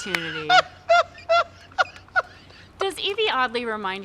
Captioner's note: laughs